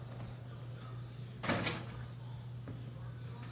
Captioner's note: door closes